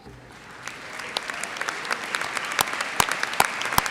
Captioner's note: audience applauds